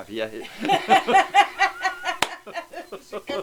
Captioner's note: laugh